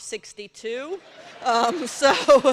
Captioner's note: laughter